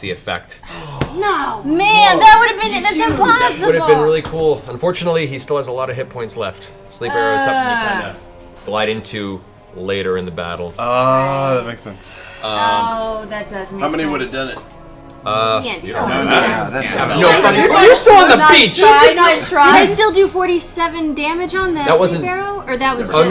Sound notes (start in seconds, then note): none